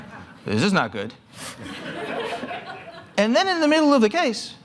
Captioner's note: laughter